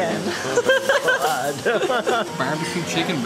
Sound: laughter

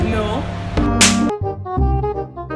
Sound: slaps

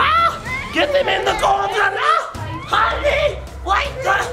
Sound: shouting

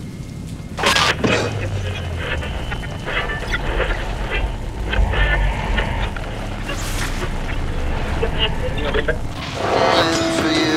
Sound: loud noise and static coming from stereo

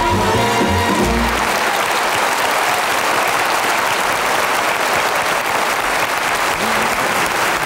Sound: audience applauds

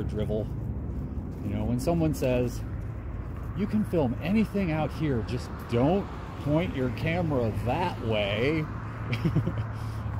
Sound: laugh

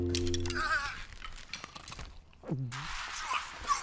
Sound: eating

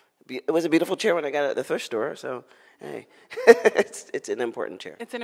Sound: laughs

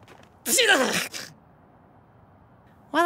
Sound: sneezing

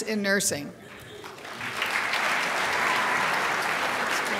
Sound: crowd applauds

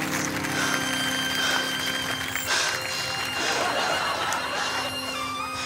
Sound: panting

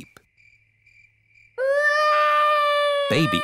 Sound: baby alexander crying

